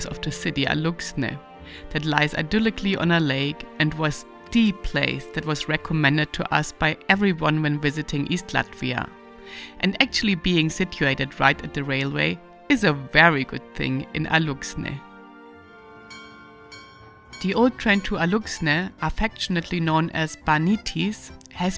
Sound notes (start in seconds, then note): 16.0 bells clanging